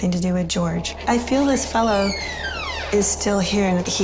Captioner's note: door creaks